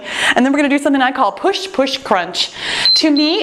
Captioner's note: timer beeping